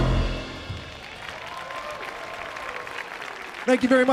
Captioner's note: audience cheering; audience applauding